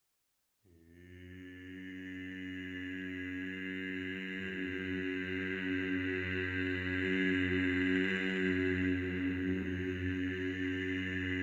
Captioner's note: humming